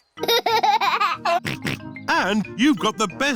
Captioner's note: laughs and snorts